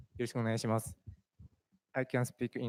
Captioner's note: speaking japanese